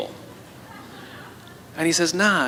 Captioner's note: La audiencia se ríe